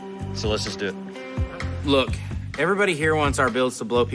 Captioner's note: none